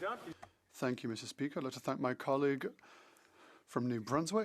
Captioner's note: speaking French